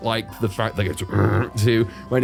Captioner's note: uhhrr